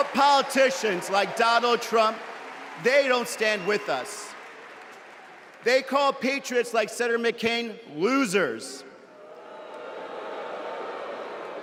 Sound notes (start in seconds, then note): 1.7 cheers and applause